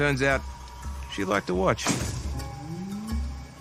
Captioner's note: nail gun fires